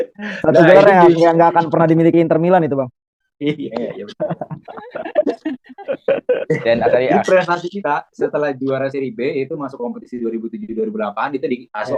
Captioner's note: laughs